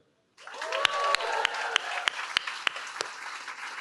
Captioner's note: cheering